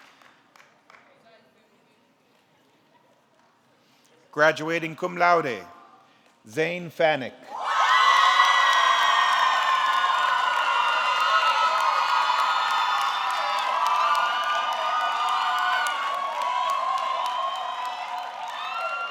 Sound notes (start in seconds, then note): 7.8 audience cheering; 7.8 audience clapping